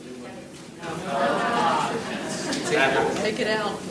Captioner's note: audience chattering faintly